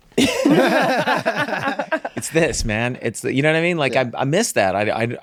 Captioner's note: group laughs